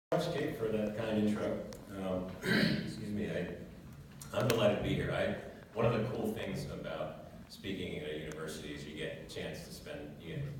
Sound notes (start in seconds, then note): 2.4 cough